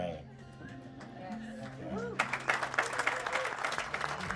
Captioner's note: clapping